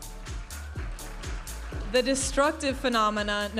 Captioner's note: audience applauding and cheering